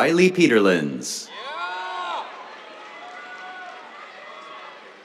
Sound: cheers, applause

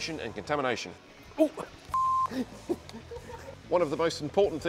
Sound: beep; chuckles

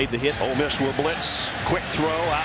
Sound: voiceover

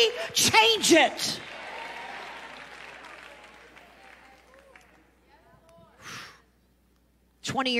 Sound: congregation clapping and cheering

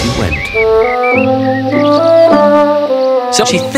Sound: birds chirping; bright music

